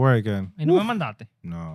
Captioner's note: speaking Spanish